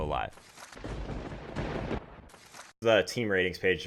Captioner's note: thunder rumbling